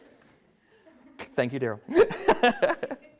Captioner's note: laughs